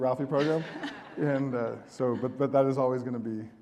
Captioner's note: audience laughing